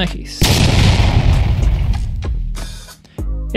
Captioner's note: explosionSounds.mp3